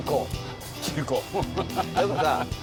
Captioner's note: scoffs